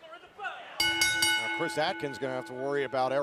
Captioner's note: bell ringing